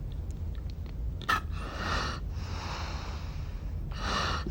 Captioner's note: breathes deeply